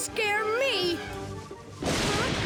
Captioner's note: thunderclap